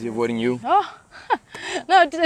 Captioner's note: laughs